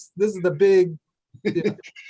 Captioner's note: laughing